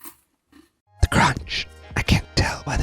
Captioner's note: whispering